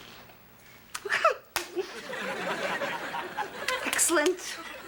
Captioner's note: nervous laugh